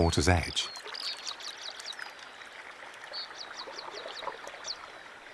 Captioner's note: birds singing